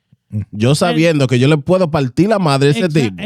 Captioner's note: speaking Spanish